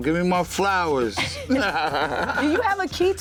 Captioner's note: laughter